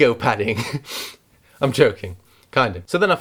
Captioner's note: laughs